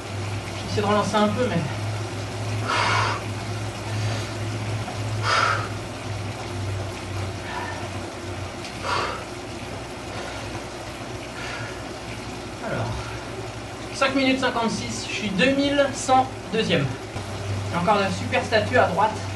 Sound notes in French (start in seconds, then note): 2.3 soufflements